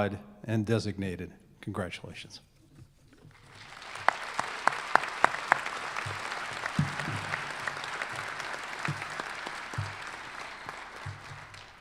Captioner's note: applause